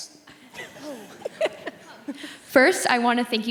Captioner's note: laughing